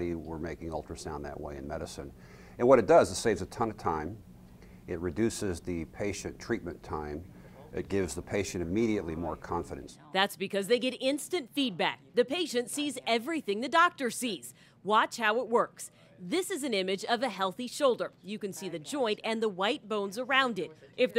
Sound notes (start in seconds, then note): 10.3 voiceover